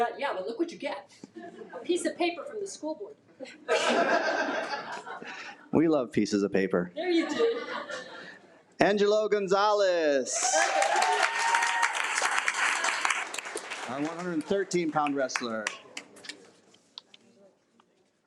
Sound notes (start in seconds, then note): 3.6 attendees laugh; 10.3 attendees cheer